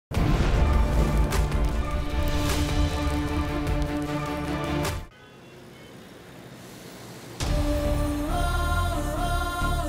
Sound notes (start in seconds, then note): 5.0 traffic sound; 7.4 determined music playing